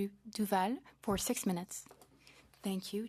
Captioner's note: speaking French